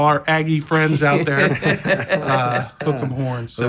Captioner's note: laugh